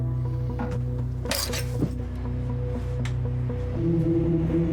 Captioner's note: keys jingle